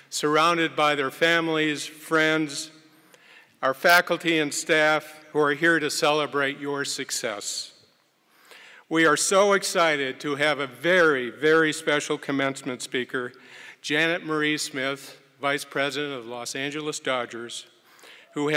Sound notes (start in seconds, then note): none